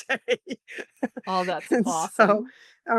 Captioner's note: laughs